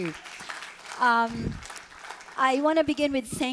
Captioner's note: audience applauding